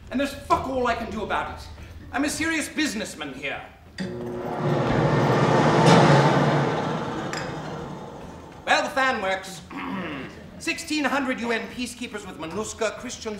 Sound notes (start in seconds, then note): 4.0 fan roars